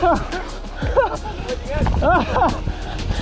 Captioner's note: laughing